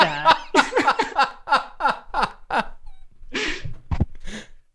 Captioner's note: laughter